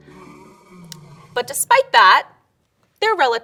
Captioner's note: animal grunting